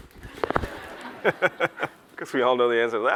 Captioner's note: laughs